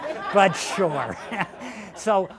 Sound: laughter

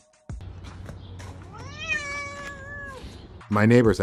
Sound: cat growling

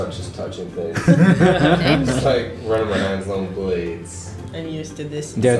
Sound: laughter

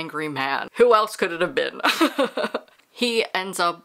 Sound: laughs

